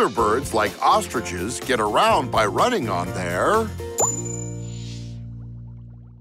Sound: none

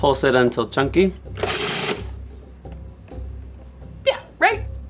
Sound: processor whirring

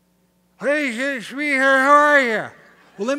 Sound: slurring

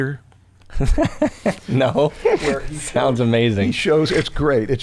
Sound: laughter

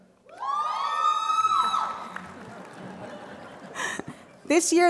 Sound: crowd Cheering

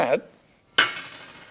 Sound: metallic clattering

